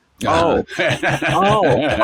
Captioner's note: laughs